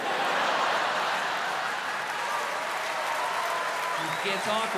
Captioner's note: laughter and applause